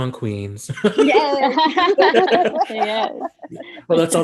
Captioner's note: everyone laughing